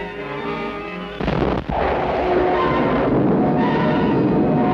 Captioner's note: explosion booms